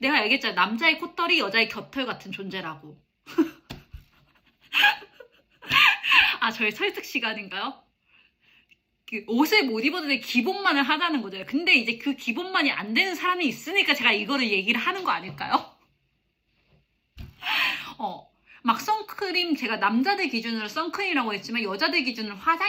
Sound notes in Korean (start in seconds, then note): 3.2 웃음